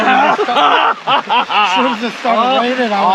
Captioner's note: all laughing